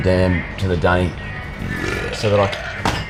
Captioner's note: man belches